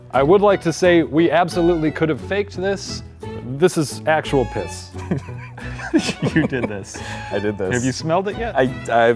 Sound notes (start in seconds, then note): 4.9 laughter